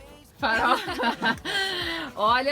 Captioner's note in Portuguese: risos